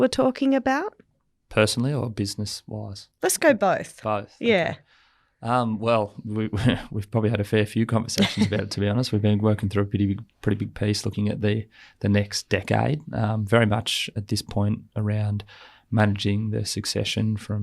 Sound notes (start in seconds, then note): 8.0 laughs